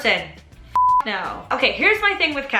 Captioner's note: beep